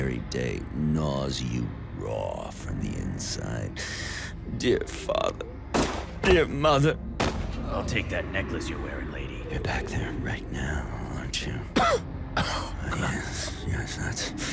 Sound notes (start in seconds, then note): 5.7 gunshot; 11.7 coughs